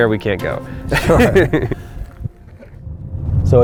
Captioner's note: laughter